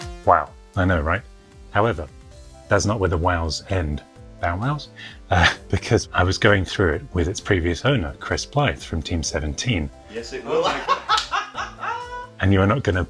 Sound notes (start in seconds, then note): 10.4 laughs